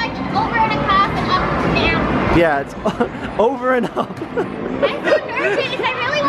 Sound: laughs

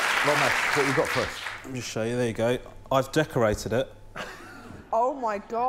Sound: applause

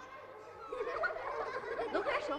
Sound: general laughter

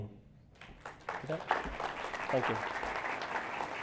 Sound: applause

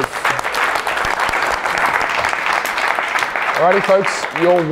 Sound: crowd gently claps

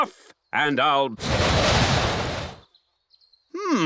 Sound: blows

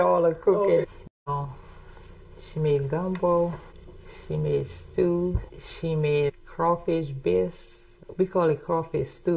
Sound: laughs

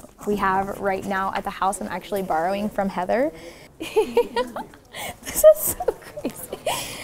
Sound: laughs

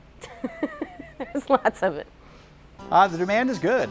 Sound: laughing

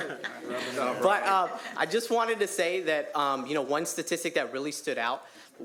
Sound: laughter

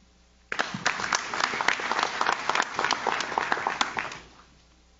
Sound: audience claps

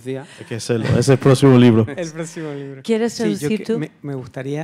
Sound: laughs; audience members speaking in Spanish; speaking in Spanish

